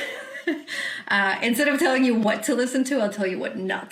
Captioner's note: chuckles